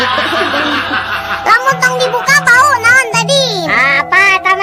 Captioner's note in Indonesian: tertawa